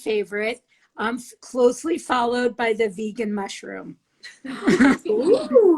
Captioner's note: laughs